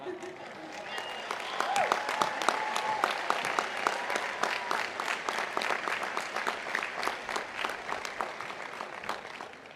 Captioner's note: applause